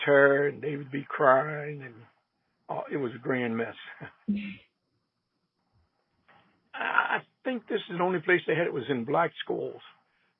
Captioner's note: laughs